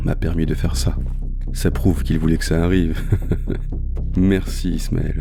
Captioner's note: laughs